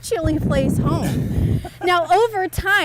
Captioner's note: laughs